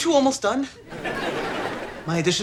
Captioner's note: audience laughter